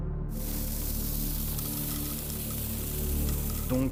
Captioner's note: grain falls